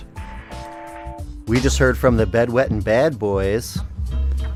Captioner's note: mocking tone